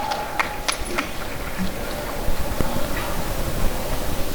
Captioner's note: applause and cheering